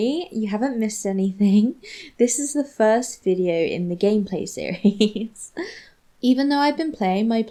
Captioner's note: giggles